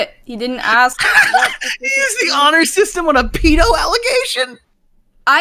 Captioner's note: laughs